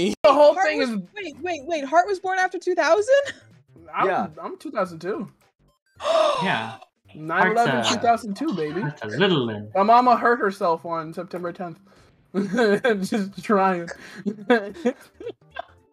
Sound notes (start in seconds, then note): 13.9 laughing